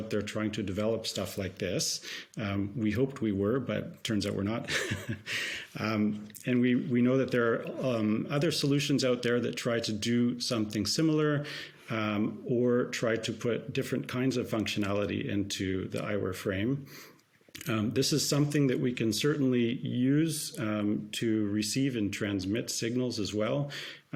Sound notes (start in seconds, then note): 4.6 chuckles